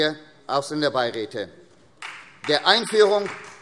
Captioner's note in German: Beifall SPD